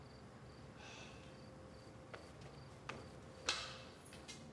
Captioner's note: Alex sighs